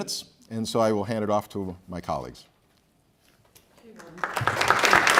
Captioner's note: applause